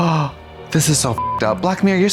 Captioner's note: beep